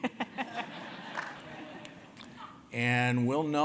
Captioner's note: laugh